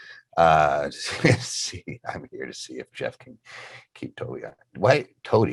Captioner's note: murmurs